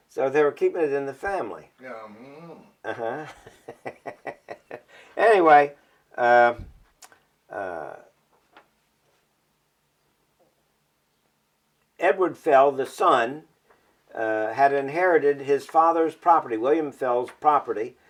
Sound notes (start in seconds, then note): 6.9 laughs